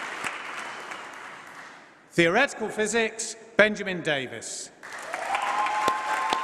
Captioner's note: applause